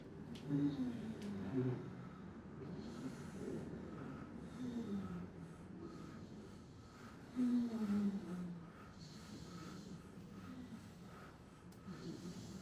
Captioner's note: hums